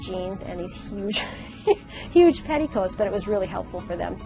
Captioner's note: laughs